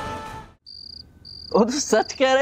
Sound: crickets chirping

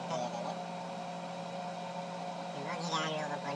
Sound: already in saturation, with helium voice

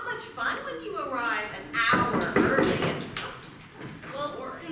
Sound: knocking

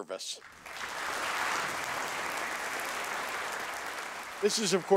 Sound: audience applauding

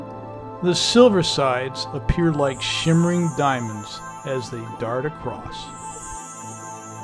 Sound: chime sounds

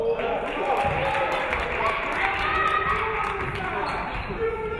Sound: audience clapping

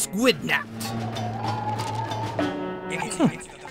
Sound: whooshing of wind

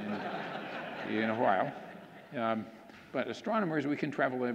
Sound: audience laughing

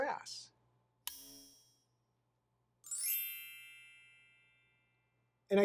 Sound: tinkling; click

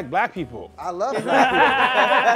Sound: laughing

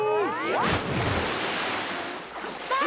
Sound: splashing; laughing

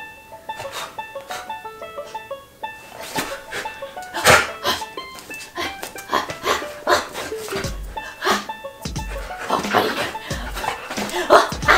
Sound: yeti barking

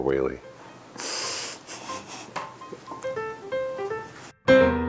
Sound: snickers

